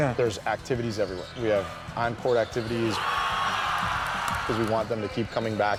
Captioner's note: crowd cheering